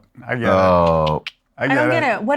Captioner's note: clicks tongue